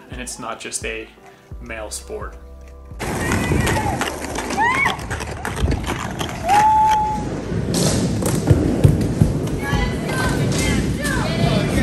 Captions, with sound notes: and it's not just a male sport. (skateboards grinding) (women screaming)